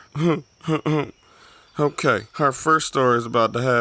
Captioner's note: clears throat